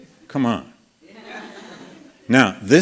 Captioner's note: laughter